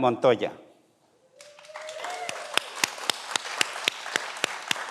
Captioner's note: everyone applauds